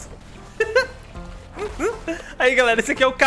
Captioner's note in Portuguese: risos